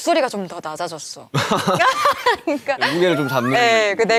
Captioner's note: hahaha